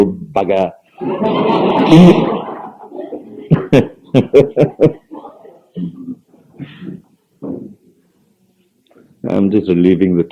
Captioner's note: general laughter; laughs